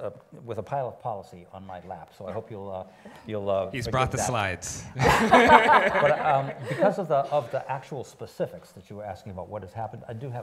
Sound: laughing

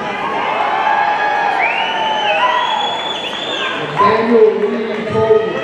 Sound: audience cheering

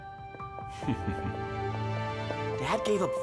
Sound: chuckles

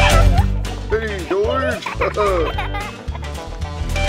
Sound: laughing

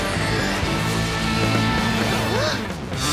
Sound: gasps

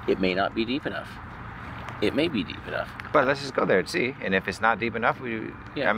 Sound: none

